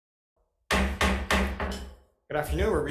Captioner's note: gavel thudding